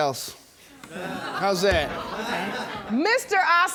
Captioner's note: audience exclaiming